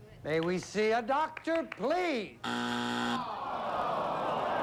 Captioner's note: buzzer